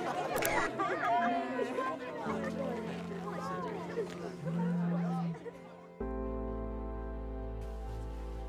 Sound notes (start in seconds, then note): 0.3 camera shot; 4.2 phone vibrating